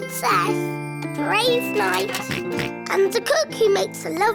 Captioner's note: oinks